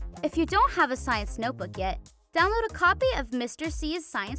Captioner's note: none